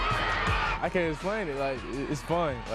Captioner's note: cheers